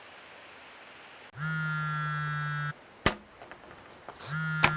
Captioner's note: phone vibrating